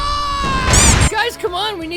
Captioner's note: squeaky toy